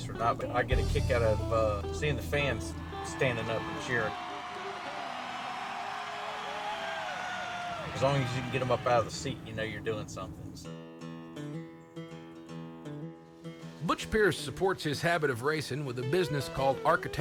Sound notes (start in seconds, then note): 4.4 crowd cheering; 10.7 bluesy music